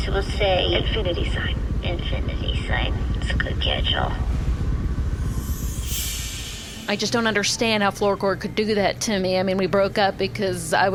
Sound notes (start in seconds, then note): 3.9 transition sound